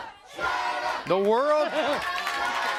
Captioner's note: crowd cheering